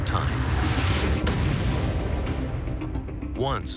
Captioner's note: smash